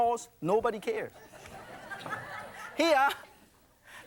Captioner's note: laughter